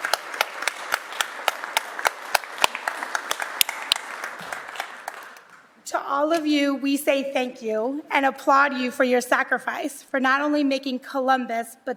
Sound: applause

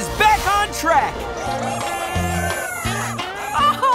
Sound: clucking

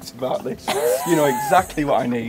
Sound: laughing

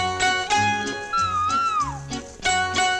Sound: cuckoo sings

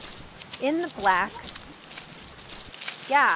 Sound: muddy Slop as Each Foot is Lifted

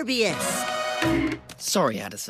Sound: bonk sound effect no. 1

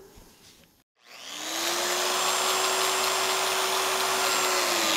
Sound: biscuit joiner buzzing

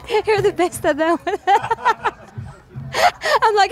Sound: laughs

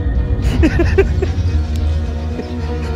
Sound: laughs

